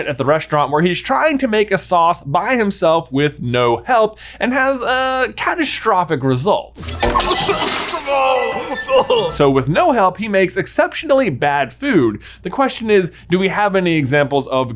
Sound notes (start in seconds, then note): 6.8 liquid sloshing; 7.1 Linguini coughing